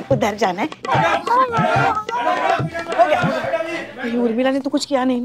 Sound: shouting

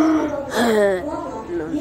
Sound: inhale; exhale

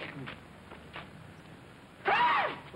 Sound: scream

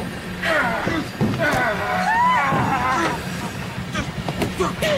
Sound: grunting

